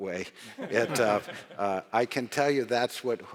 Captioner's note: audience laughs